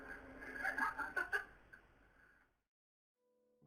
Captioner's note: laughs